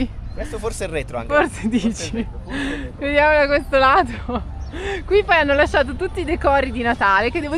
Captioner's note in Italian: risate